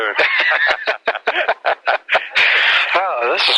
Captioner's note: both laugh